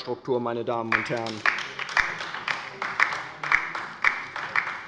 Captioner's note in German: Beifall bei der LINKEN